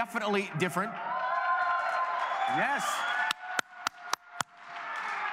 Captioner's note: cheers and applause